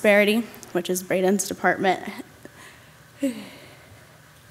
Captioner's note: chuckles